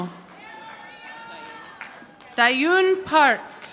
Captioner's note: audience applauding